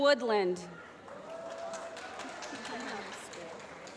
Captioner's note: applause